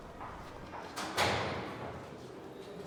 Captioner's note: door closes